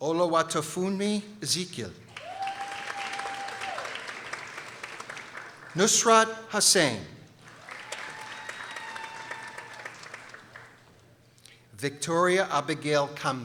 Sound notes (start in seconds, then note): 2.1 people applauding; 7.4 people cheering